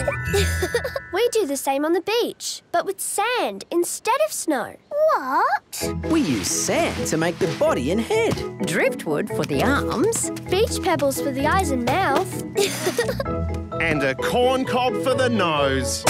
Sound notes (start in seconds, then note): 0.0 laughing; 12.5 laughing